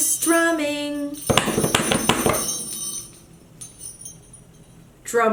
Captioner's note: hands drumming